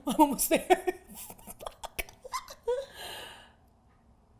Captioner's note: laughs